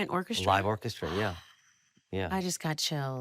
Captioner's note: gasps